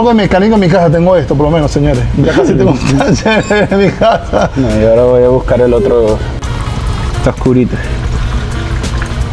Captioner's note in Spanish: risas